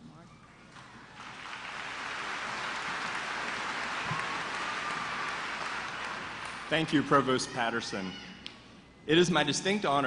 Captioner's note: applause